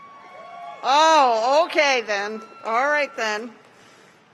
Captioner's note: cheers